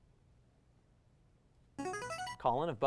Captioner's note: ringing